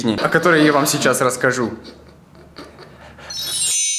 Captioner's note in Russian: злой смех